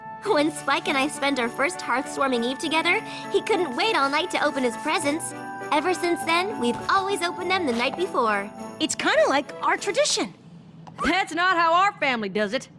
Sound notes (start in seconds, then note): none